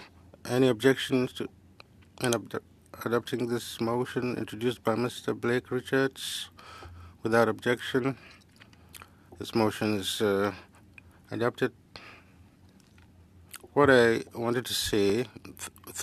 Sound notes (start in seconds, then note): 1.9 speaking FRENCH